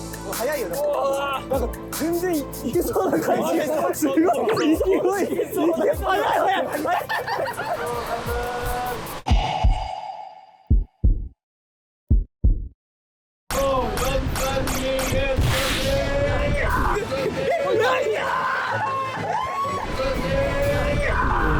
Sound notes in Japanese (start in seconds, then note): 19.2 一同：歓声